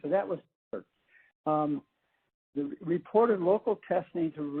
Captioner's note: audio gap